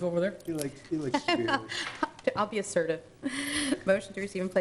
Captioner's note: laughing